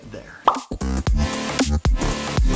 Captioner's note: upbeat music; popping sound